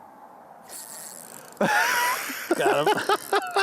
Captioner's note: laughing